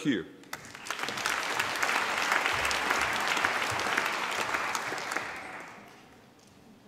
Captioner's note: applause